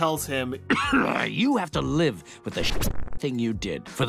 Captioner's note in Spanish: tosiendo